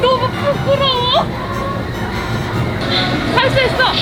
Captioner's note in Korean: 웃음